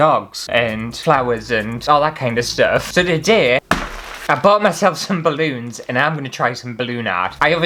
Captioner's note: slam